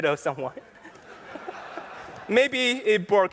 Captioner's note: laughter